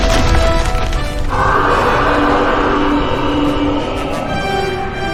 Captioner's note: dinosaur roaring